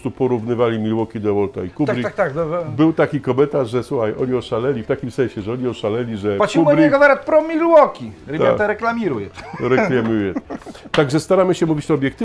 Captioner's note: russian phrase